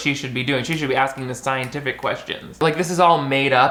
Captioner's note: snaps